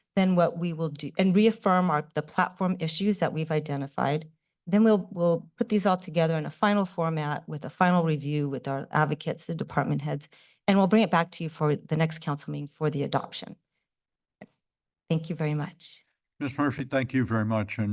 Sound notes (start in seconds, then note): 13.6 pause